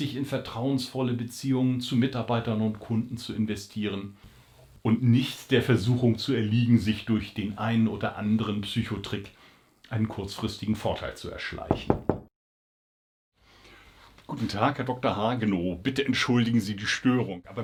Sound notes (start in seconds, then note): 11.7 knocking on the door